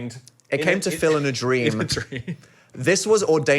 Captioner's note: laughs